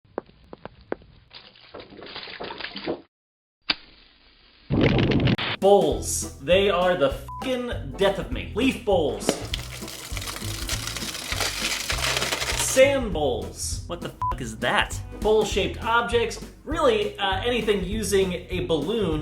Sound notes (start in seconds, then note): 9.4 sounds of leaves crunching